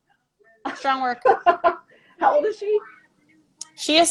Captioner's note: laughing